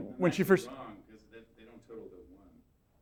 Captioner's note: voiceover